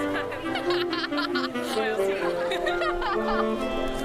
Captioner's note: laughter